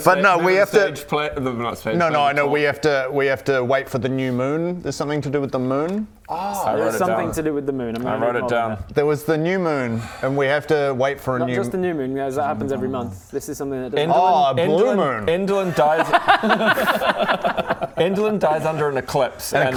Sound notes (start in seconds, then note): 15.6 technically correct laughter